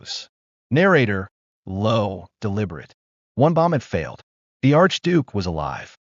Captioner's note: low, deliberate